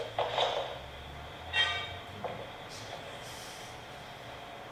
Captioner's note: sound of a pipe falling